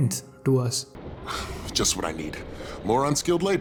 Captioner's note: sigh